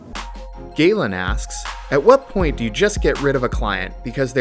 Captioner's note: voiceover